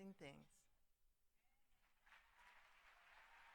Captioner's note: applause